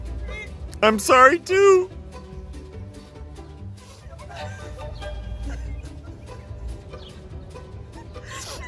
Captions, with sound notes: - I'm sorry. - I'm sorry too. - (crying) (sniffling)